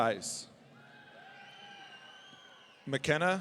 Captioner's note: audience cheering